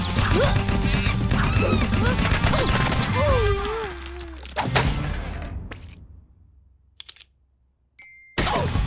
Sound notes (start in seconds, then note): 0.0 grunting; 3.1 groaning